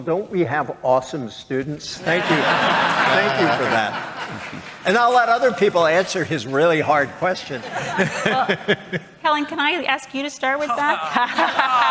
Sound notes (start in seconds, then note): 4.2 chuckles